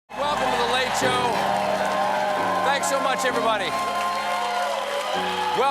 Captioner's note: cheers and applause